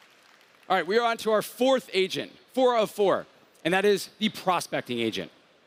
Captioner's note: applause